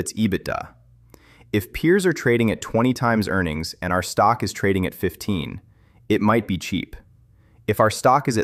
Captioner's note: thoughtful